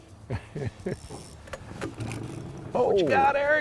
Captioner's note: laughing